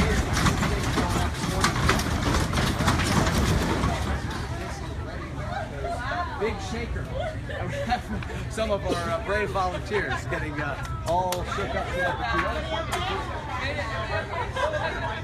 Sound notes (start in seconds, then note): 0.0 sounds of shaking and shouting in the background; 1.5 noise from falling items and continued shaking